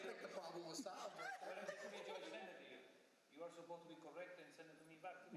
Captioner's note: laughter